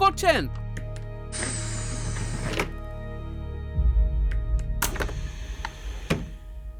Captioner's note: auto door opens and closes